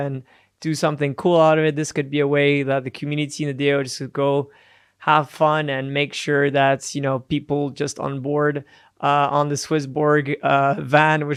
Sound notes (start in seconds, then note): none